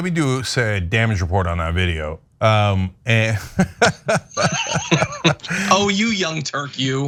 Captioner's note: laugh